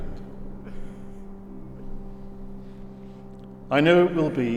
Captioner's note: guest sobbing